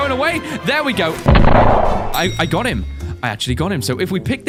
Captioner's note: kaboom